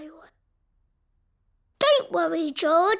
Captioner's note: silence